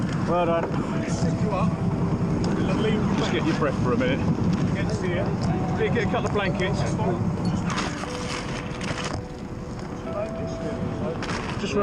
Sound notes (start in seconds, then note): 7.5 gear swooshing; 8.8 intense music